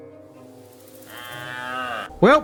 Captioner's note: cow screaming